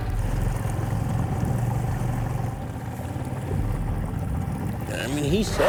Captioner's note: engine chugging; water sloshing